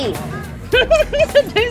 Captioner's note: laughs